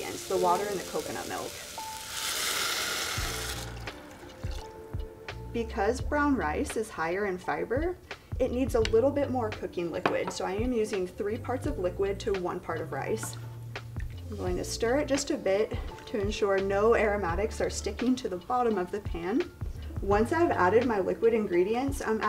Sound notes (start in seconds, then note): 2.3 pan sizzling; 3.8 gentle music